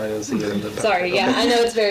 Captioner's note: laughs